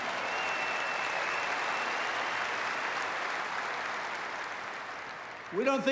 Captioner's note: applause